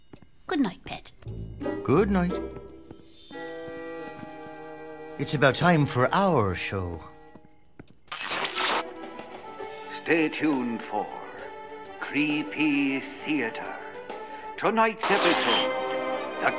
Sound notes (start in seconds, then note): 8.1 static; 10.0 radio Announcer; 15.0 static